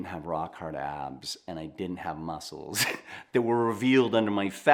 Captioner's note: chuckles